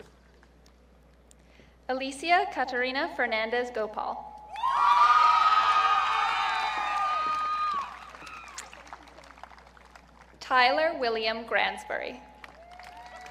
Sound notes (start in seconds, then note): 4.5 audience cheering; 12.6 audience cheering